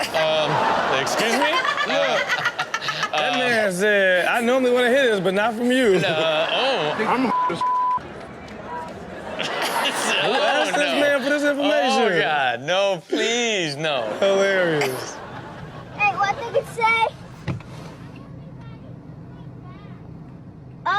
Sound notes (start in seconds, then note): 1.3 Chanel laughs; 9.1 all laugh